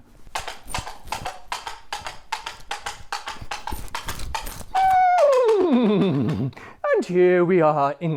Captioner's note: horses hooves